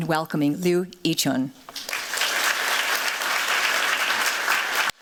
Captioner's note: applause